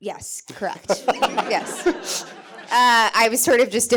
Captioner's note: audience chuckling